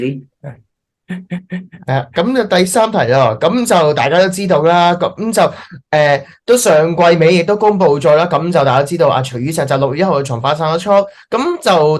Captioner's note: Speaking in Cantonese